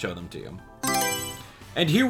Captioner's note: Mario Selection Sound